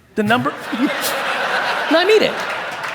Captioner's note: audience laughing